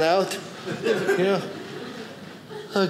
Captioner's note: audience laughing